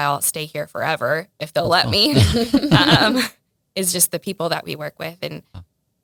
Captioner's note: laughs